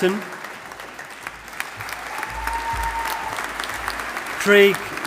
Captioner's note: audience applauding